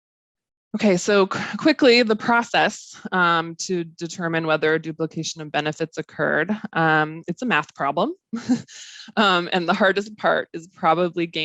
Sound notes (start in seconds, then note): 8.3 laughs